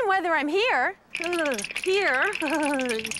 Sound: shivering

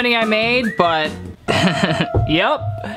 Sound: laughs

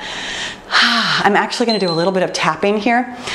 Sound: timer beeps

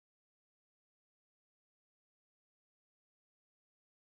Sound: none

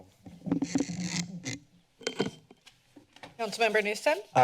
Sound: mic noise

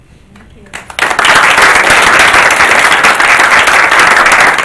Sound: applauding

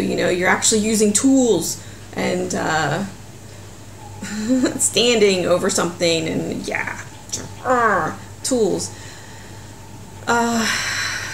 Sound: laughs

